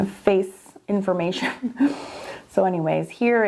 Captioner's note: laughing